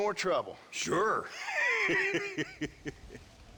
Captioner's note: laughs